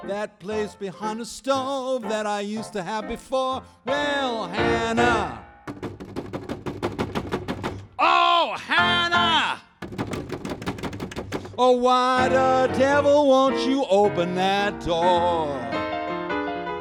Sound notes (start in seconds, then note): 5.6 hand knocking; 9.6 hands knocking